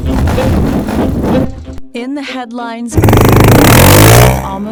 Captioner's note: engine revving